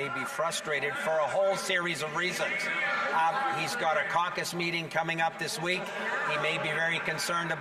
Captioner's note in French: voix de l'interprète